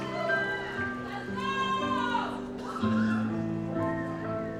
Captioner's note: audience cheering